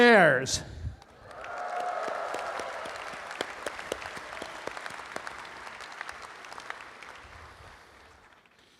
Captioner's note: audience applauding